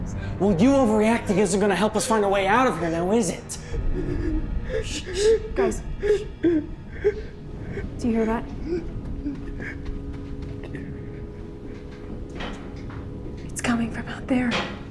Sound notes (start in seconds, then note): 10.3 objects clattering